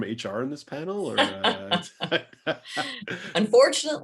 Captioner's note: laughter